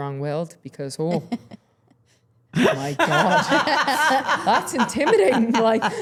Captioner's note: everyone laughing